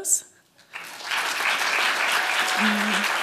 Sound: applause

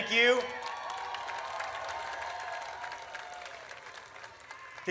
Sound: audience cheers

